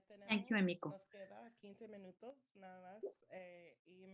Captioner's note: speaking spanish